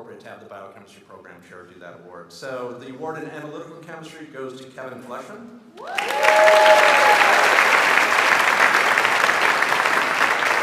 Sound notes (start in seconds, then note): 5.8 audience applauds